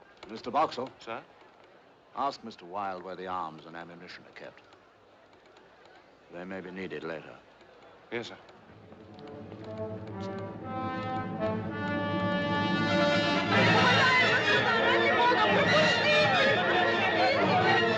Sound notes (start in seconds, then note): 9.1 Clicando